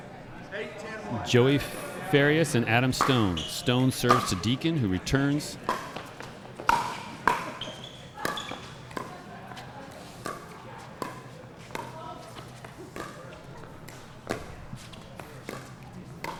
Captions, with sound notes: Joey Farias and Adam Stone. Stone serves to Deakin who returns. (ball being hit) (shoes squeaking)